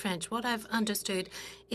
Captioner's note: speaking in French